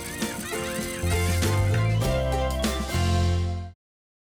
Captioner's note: animals laughing